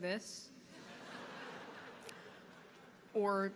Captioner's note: audience laughing